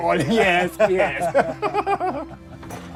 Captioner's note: laughing